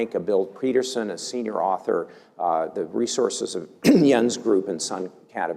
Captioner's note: cough